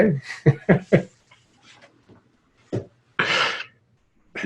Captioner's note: both laughing